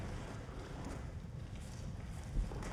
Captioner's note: speaks Russian